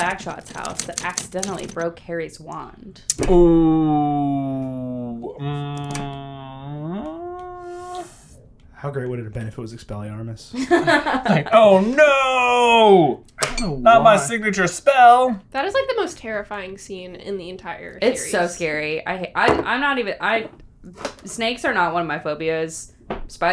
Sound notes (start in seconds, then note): 10.5 laughter